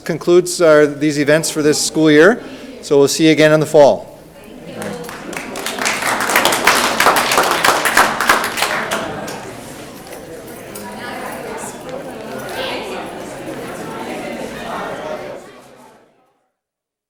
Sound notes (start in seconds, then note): 4.7 audience clapping; 10.0 people chattering loudly